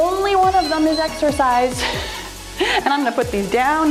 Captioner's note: timer beeps